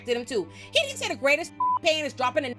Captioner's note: beep